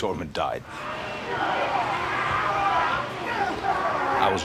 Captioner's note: chuckles; grunting